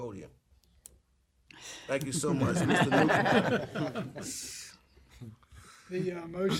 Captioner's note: laughter